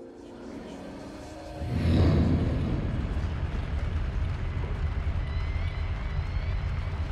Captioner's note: dark music; flames roar